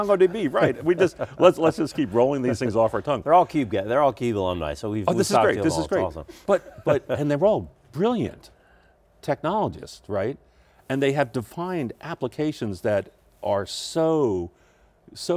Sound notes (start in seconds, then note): 6.3 laughs